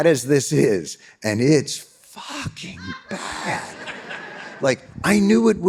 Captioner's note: audience laughing